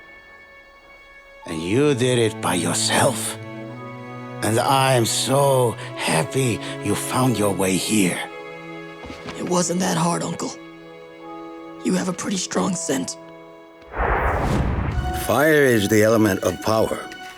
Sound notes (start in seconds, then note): none